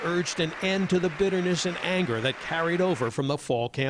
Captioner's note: applause